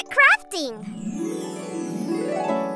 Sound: chime

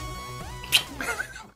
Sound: smooches

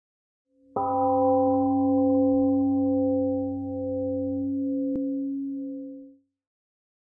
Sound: temple gong rings and fades

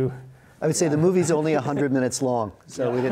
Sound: audience laughs

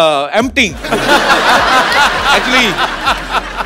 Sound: laughter

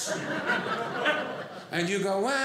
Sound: audience laughing

